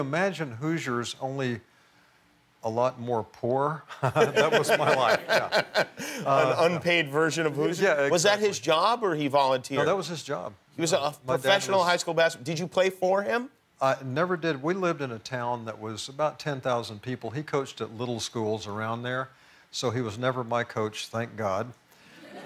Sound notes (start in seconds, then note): 4.0 laughing